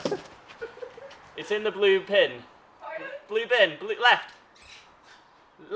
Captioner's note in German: Lacht